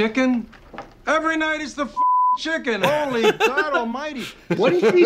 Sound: beeping

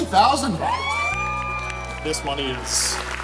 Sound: crowd cheering

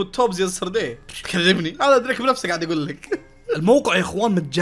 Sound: laughs

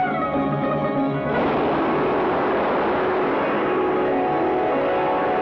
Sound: water Waves Sound

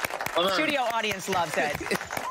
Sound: applause

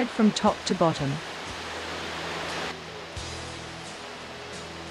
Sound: water falls

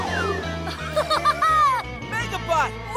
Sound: laughing

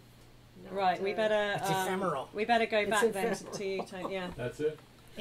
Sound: laughing

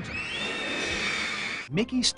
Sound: people screaming

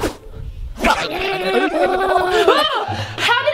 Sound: Germy gibbering

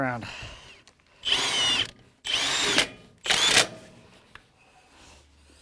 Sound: drill whirring

